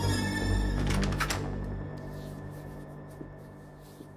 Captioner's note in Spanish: Ruido al abrir la puerta